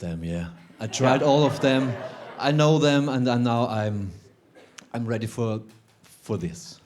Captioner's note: some chuckles